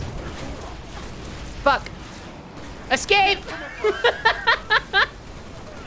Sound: laughing

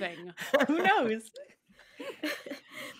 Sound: all chuckling

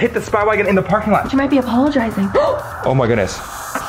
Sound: gasps

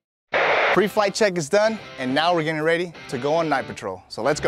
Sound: radio noise

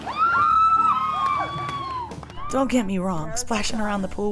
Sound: screams

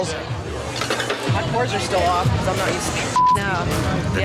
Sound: beep

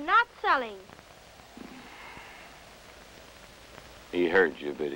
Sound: sigh

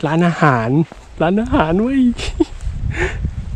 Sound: laugh

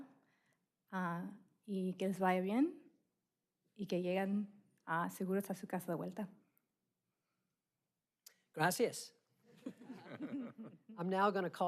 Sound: speaking spanish

